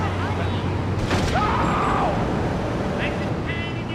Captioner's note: car engine roaring; speaking in foreign language; car engine roaring